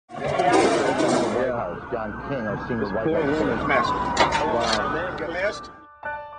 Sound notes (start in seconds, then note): 0.1 voiceover; 6.2 soft music